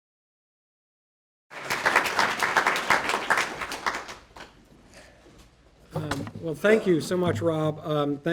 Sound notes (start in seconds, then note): 1.5 audience applause